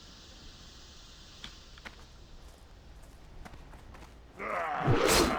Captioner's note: grunts